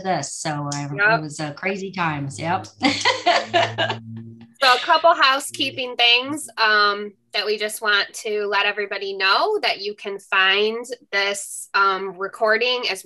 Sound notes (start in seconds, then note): 2.8 laughs